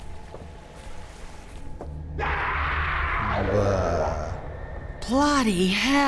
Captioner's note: monstrous scream in the distance